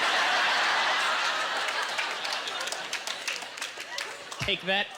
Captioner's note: audience laughter